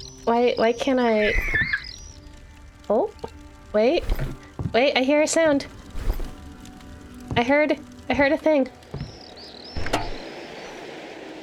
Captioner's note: bird squawking